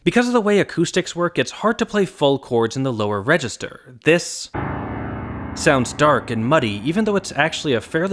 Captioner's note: bang